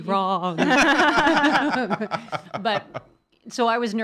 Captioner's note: laughing